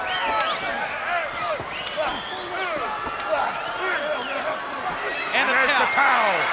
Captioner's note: wrestlers grunting; blows thudding